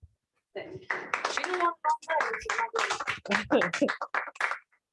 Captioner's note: applause